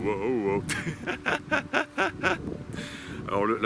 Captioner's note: laughs